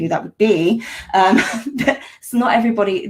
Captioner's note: laughs